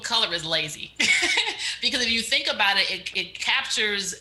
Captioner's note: chuckles